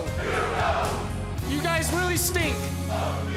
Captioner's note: fans chanting